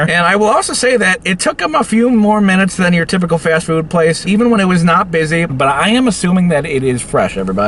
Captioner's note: none